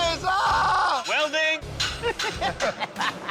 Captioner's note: laughter